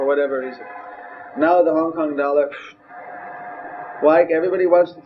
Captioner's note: gasps